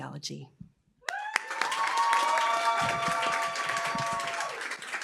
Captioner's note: applause, cheering